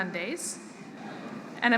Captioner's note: laughter